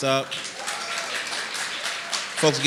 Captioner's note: applause and cheering